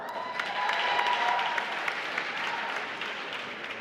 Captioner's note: applause